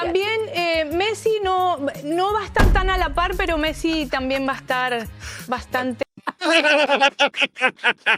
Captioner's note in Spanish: risas